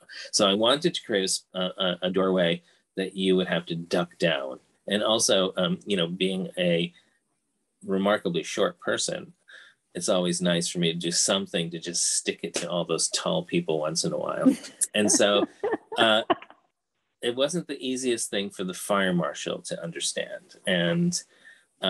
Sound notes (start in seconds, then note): 14.9 laughing